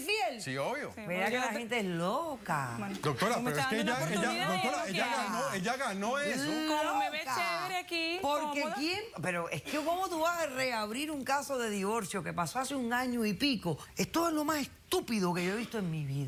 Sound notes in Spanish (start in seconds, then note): 3.0 Hablan al unísono